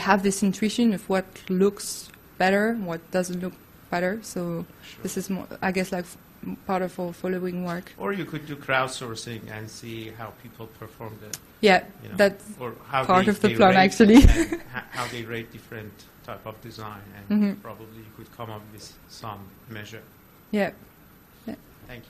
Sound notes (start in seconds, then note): 13.6 laughs